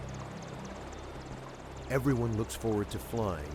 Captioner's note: voiceover